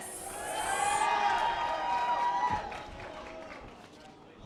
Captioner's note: audience applause